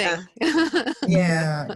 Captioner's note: laughs